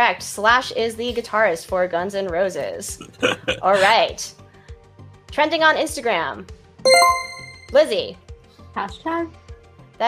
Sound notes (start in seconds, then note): 2.9 laughs; 6.8 chime rings